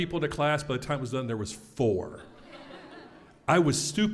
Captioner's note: laugh